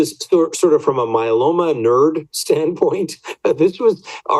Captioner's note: laughs